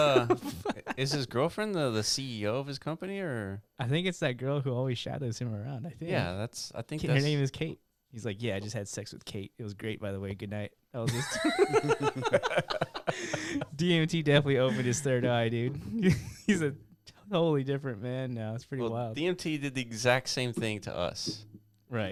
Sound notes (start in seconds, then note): 11.1 laughing